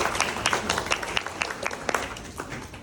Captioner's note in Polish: Aplauz